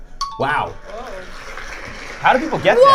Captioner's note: audience clapping